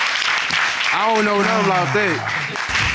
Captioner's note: audience applauding